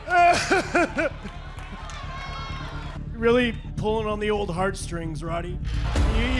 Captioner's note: crying loudly